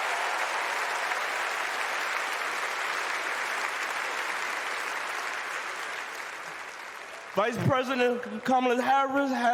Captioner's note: cheers and applause